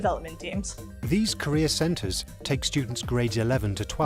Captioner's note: voiceover